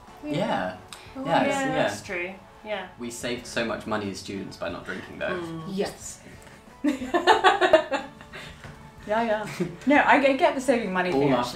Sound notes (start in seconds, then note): 5.8 whispering